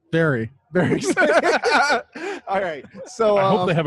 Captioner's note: laughing